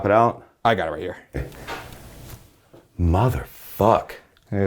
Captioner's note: object thuds